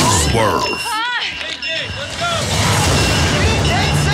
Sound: bells ringing; contestants yelling

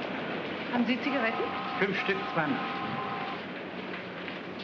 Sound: speaking in German

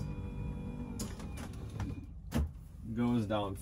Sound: bed clicks

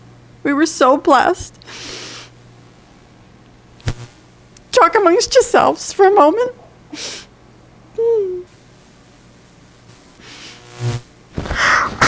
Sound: blows nose

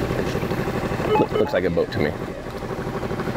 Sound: scanner beeping

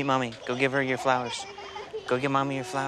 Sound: laughter

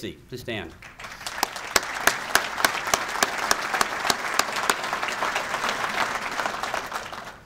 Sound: clapping

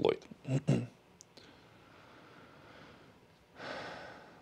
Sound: clears throat

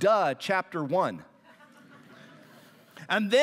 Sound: laughter

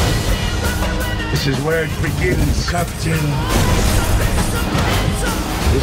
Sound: voiceover

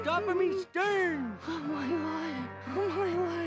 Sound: whimpering

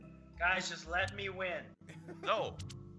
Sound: laugh

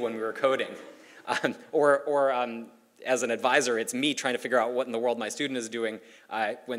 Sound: laugh

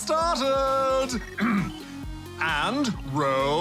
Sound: clears throat

